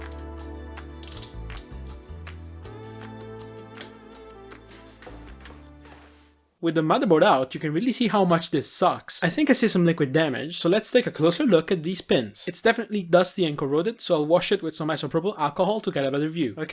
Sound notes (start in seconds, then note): 1.0 ratcheting noise; 3.8 switch being flicked